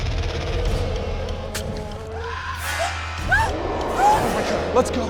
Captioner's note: animal chittering; royce screams, animal growls